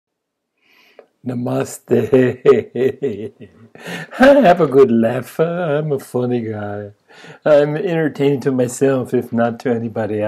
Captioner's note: laughs